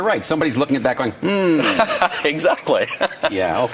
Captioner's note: laughing